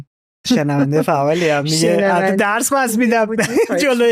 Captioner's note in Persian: خنده